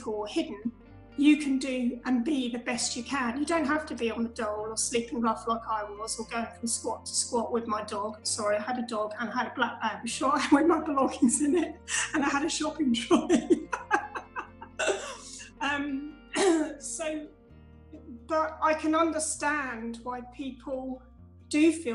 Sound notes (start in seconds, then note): 17.2 laughs